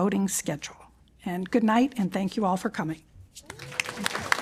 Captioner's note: applause